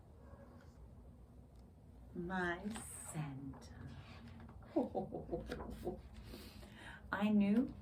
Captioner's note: ho-ho-ho chuckles